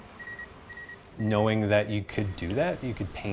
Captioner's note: beeping